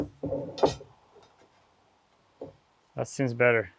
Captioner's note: square clattering